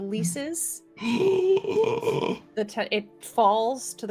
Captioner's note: gasps